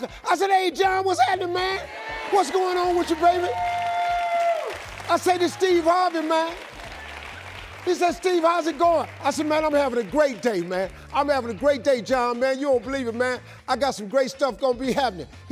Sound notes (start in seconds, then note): 3.3 audience cheering